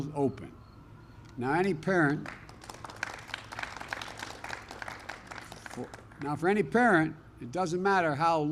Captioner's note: applause